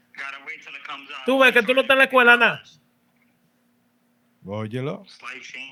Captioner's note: non-english Speech